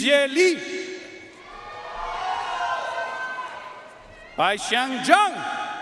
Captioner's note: audience cheering and applauding